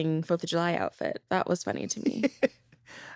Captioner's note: laughs